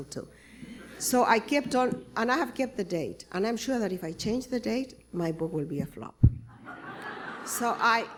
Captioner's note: laughter